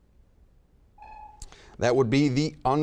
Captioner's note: buzzer beeping